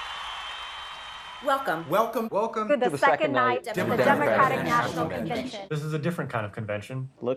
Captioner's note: applause